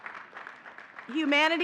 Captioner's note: audience clapping